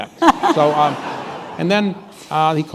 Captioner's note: laughter